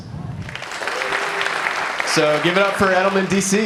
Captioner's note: applause